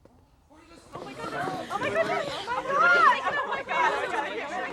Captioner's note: people chattering